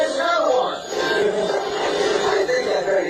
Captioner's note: chuckles